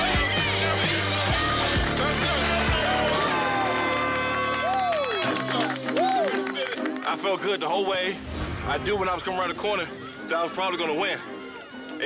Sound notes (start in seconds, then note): 3.3 horn blares